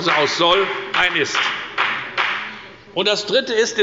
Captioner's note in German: Beifall bei der FDP